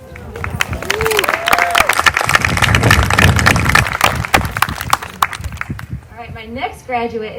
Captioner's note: applause